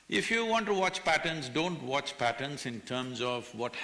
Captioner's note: none